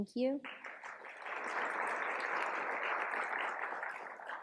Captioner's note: applause